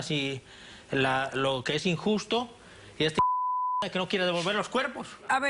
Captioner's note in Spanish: Bip